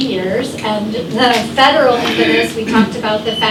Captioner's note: drowned out by throat clearing